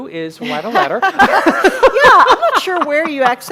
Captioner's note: laughing